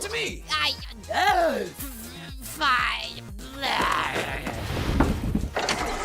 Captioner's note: gasp